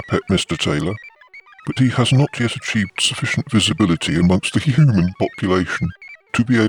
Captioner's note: laughs